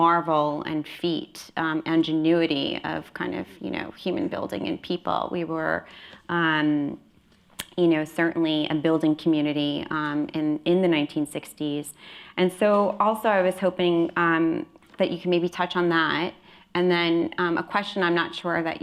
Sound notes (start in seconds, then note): none